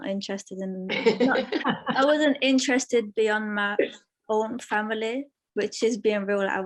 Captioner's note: laughter